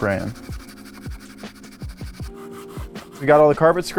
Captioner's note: brush scrubbing